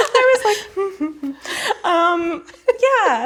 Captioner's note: hums